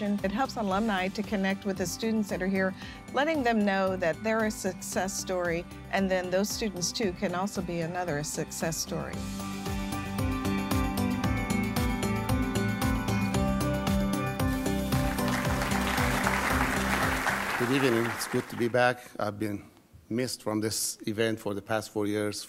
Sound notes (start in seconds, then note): 9.9 upbeat music; 14.7 audience clapping